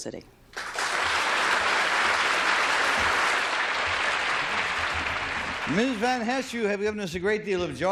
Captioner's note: applause